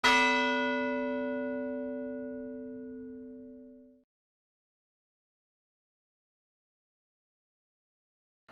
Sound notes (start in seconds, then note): 0.7 bell ringing